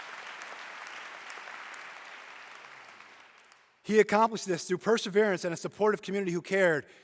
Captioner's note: applause